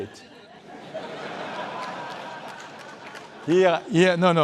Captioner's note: laughter